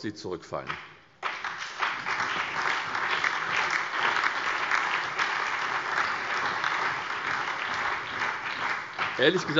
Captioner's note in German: Beifall SPD, BÜNDNIS 90/DIE GRÜNEN und DIE LINKE